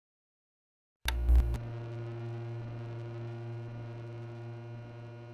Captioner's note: light buzzing